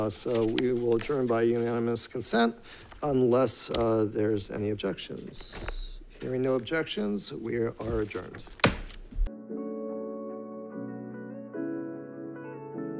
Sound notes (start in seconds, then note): 8.5 gavel taps; 9.2 gentle upbeat music